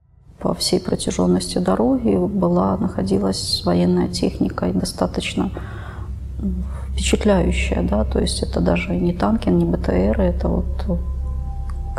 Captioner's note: russian